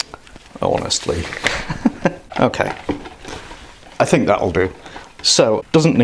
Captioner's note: laughs